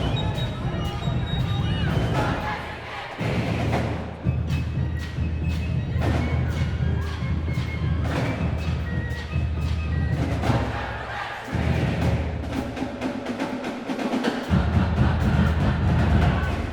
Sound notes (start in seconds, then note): 0.0 crowd chanting; 9.9 chanting; 14.0 band playing, crowd chanting